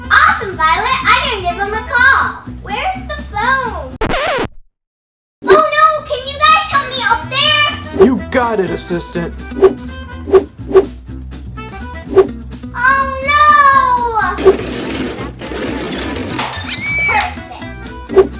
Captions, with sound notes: - Awesome, Violet! I can give them a call. Where's the phone? (record scratches) Oh no, can you guys help me up there? - You got it, Assistant! (whooshing) - Oh no! (clatters) - Perfect.